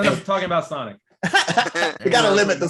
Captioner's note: laughing